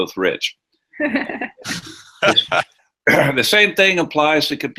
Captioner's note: laughter